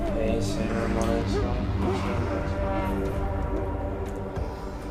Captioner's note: man speaks in foreign language